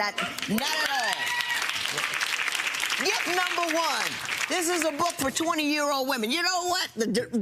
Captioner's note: audience applauds